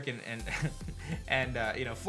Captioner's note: chuckles